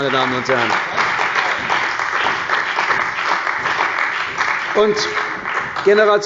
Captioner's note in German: Beifall bei der CDU und dem BÜNDNIS 90/DIE GRÜNEN